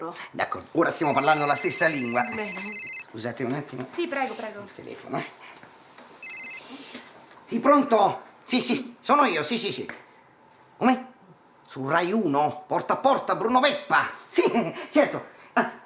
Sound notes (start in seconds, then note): 1.0 cell phone rings; 6.2 mobile rings